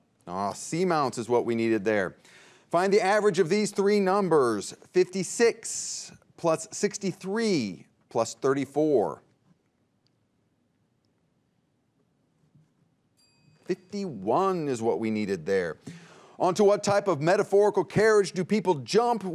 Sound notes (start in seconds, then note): 13.2 bell rings